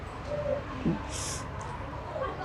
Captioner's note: sobbing